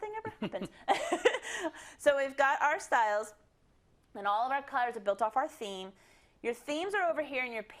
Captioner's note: laugh